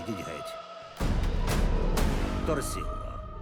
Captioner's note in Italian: urla indistinte; alzando la voce